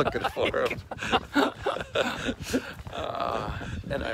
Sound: both laughing

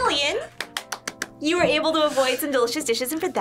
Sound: claps

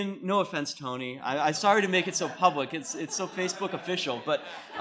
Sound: laughter

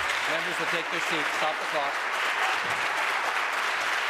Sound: applause

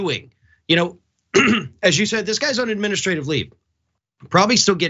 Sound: cough

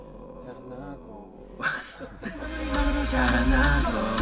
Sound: laughing

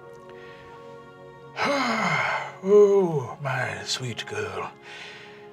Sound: sighs

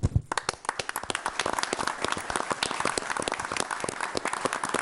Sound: audience applauding

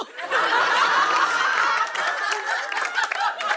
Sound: laughter and applause

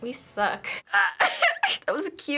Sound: laughs

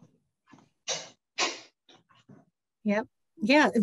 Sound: door closing

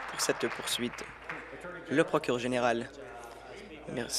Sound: applause

